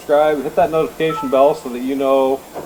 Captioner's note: notification bell rings